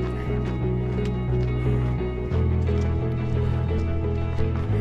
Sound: footsteps crunching

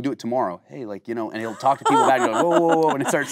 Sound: Kate laughing

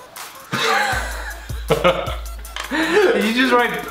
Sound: Collins laughs loudly

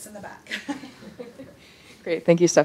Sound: chuckling

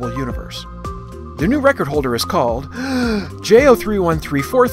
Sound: deep breath

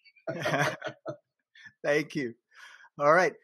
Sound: laughs

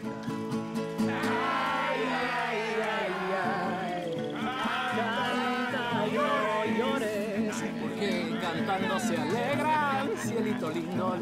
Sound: in Spanish, and the others repeating

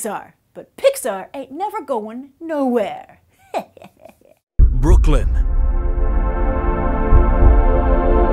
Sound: evil laugh

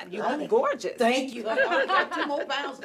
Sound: all laughing

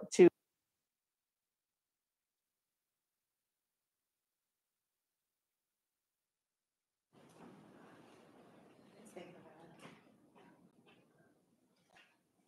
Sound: microphone cuts out

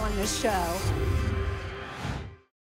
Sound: whoosh

